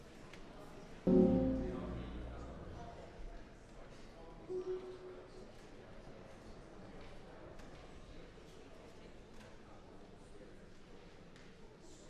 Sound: general chatter

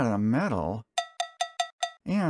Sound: cowbell

